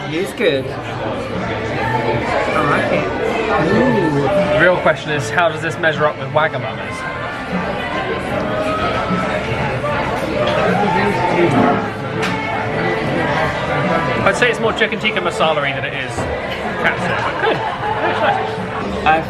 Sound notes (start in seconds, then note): 7.5 bright music continues; 7.5 diners chatting indistinctly